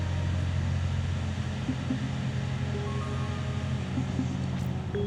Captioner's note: incoming ringtone; digital warble